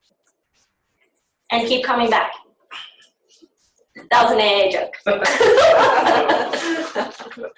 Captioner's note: laughter